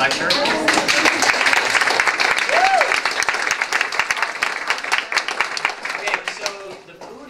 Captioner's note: applause